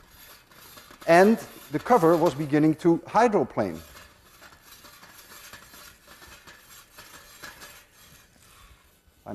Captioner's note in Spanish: A º tapa de metal rozando freelyÄ ¸